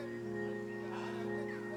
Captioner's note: sighs in exhaustion; birds chirping